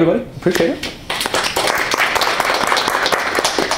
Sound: applause

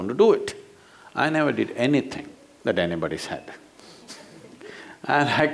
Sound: few laugh

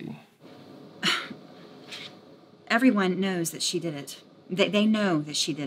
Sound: scoffs

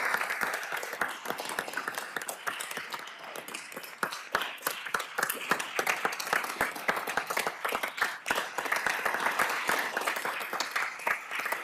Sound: applause

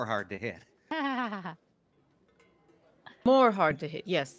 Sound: Bluejay laughs

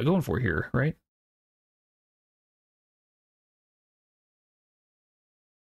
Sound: silence

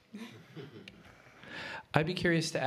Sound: laughter

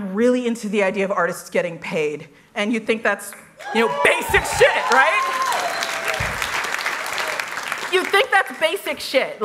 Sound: applause

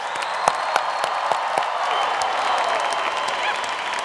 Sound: applause

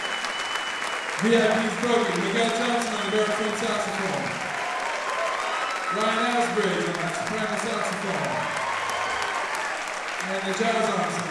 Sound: applause drowns speech

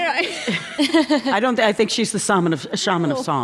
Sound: laughter

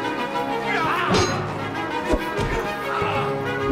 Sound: metal clanging; grunting

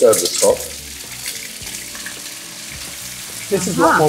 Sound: food sizzles

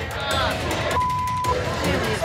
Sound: beep

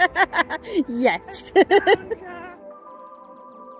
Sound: laughing

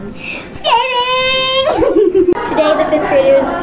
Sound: giggles

